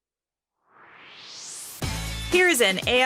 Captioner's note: swoosh